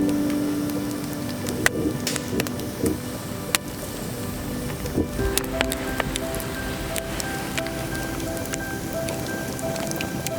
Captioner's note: crackling fire